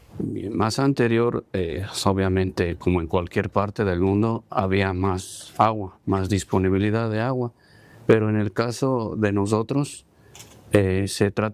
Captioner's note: speaking spanish